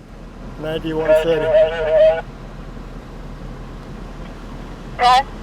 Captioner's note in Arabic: ثرثرة الشرطة اللاسلكية